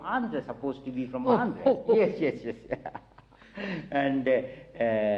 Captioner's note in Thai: หัวเราะ